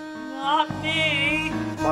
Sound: woozily

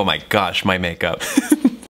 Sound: chuckles

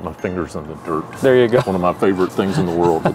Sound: laughs

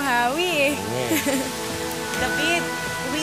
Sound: chuckles

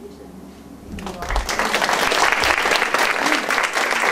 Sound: audience applauds

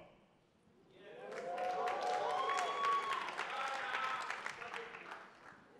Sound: attendees applauding

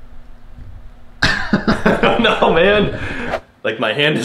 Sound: laughing

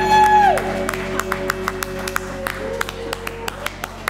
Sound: applause

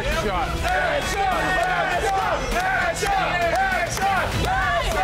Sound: crowd chanting ass shot

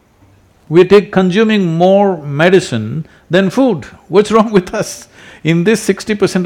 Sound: laughs

